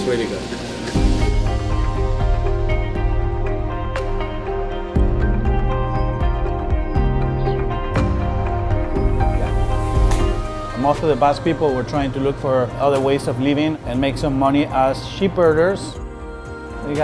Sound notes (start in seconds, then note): 10.0 hand slaps